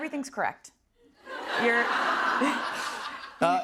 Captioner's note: laughter